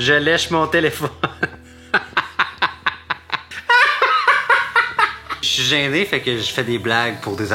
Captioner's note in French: rire